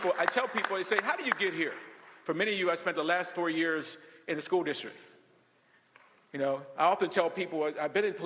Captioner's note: applause